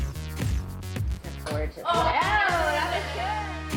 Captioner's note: exclaims